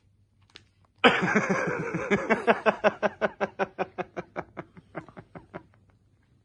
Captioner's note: evil laugh